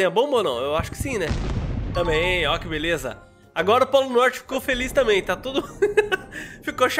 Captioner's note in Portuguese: risos